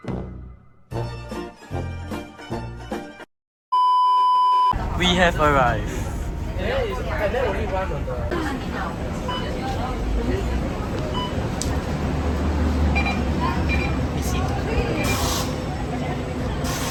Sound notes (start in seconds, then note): 8.8 ezlink sounds